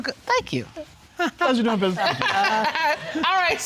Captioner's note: judge laughing